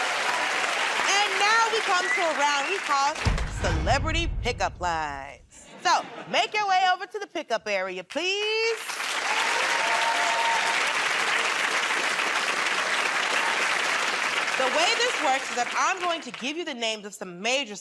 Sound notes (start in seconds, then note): 5.6 laughter; 11.9 cheering and applause